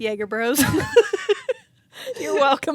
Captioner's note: both laughing